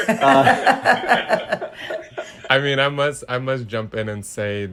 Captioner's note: all laughing